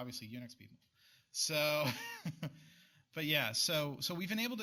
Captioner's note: laughs